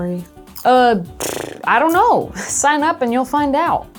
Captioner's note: trills